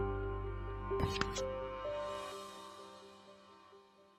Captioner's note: light scraping